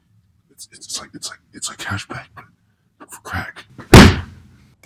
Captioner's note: stammers